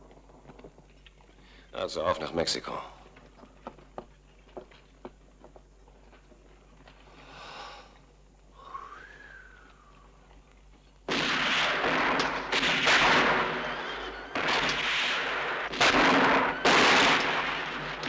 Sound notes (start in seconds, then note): 8.5 sighs softly; 11.0 guns firing